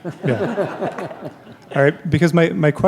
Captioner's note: laughter